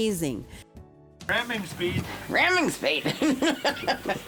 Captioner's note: laughs